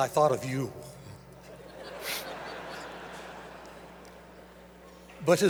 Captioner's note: audience laughter